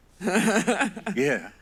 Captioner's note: laughs